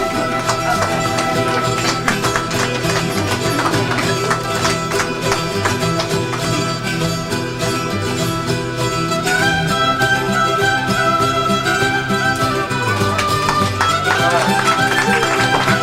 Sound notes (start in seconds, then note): 0.0 clapping; 5.8 peruvian music